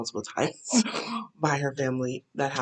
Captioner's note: laughs